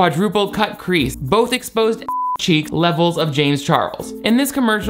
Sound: beep

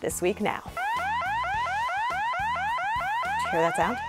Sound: alarm sounds

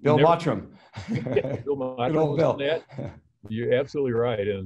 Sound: both chuckles

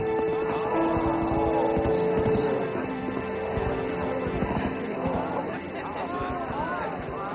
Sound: crowd

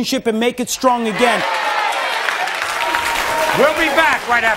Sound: audience cheering

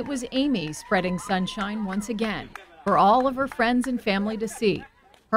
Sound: cheering

